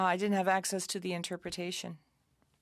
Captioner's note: speaking French